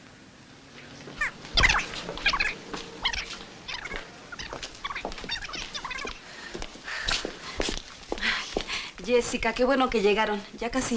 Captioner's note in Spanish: Cinta rebobinando